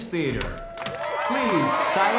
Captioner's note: audience cheers